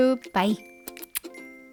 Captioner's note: {kiss, kiss, kiss}